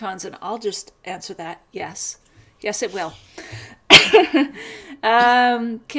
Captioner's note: laughs